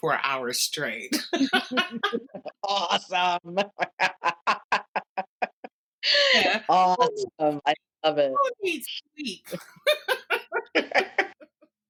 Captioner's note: laughter